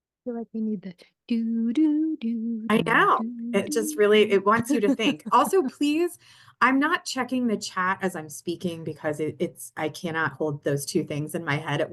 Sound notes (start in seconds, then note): 0.9 hums theme song